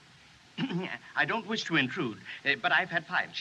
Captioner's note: clears Throat